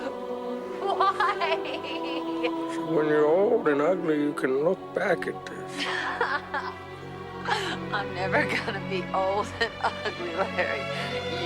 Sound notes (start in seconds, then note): 5.7 laughs